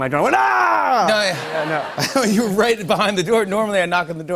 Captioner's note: laughter